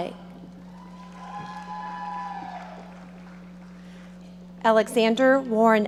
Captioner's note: audience applauding